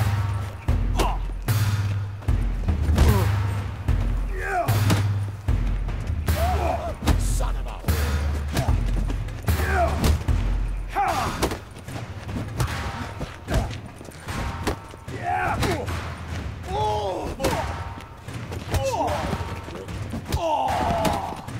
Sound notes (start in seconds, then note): 2.8 blow lands; 4.2 groan; 9.5 grunting with exertion; 16.6 grunting, groaning; 20.2 groan